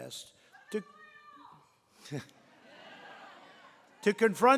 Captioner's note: laughs